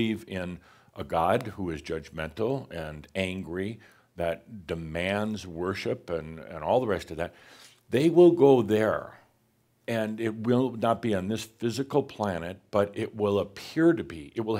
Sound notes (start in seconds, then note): none